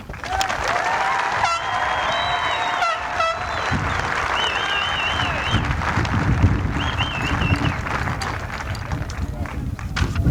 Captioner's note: applause